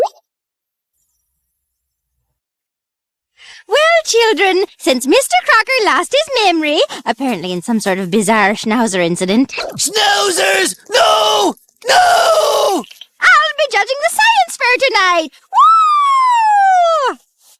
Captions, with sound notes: Well, children, since Mr. Crocker lost his memory, apparently in some sort of bizarre schnauzer incident... Schnauzers... No! No! I'll be judging the science fair tonight. ( whoops )